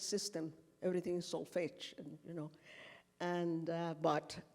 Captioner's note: speaking foreign language